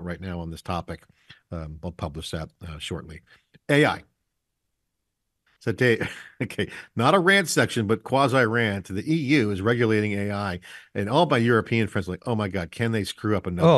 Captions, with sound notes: right now on this topic. I'll publish that shortly. AI. So Dave, okay, not a rant section, (chuckles) but quasi-rant to the EU is regulating AI and all by European friends are like, oh my God, can they screw up another-